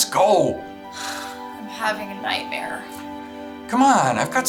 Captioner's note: sighs